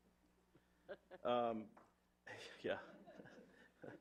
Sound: laughs

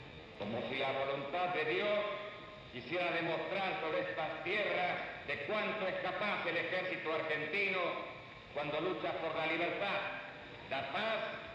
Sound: military Speech

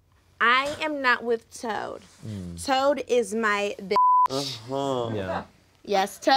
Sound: beep

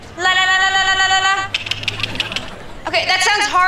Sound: clicking

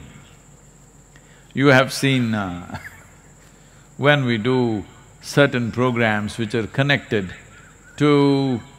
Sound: laughs

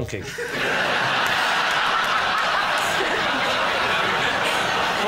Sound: laughter

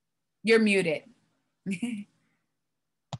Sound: laughs

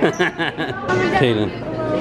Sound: laughs

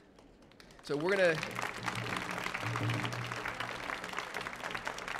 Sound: audience applauding

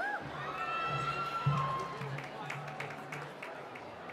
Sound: cheering

